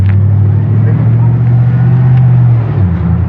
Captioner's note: truruckck dririviving